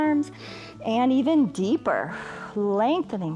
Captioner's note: exhales